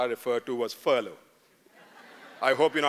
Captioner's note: laughter